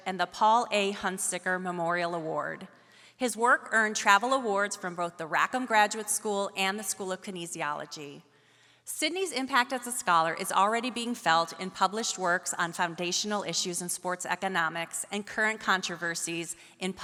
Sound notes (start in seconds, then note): none